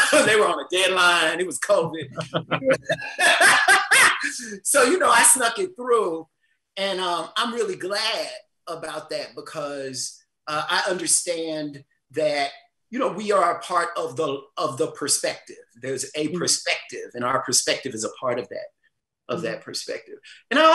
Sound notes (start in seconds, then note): 3.6 all laughing